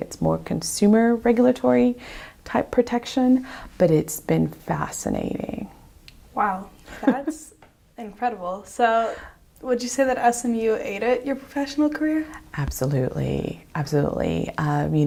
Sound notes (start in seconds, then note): 6.8 laughs